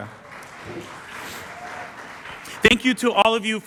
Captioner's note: applause